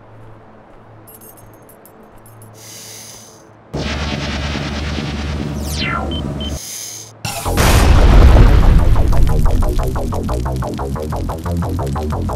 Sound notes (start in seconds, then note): 3.7 retro electronic sounds; 8.6 electronic music